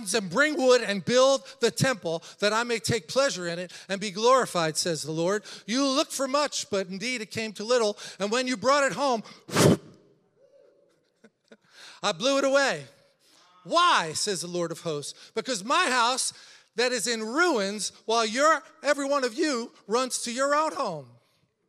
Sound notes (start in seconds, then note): 9.4 blows; 11.1 laughs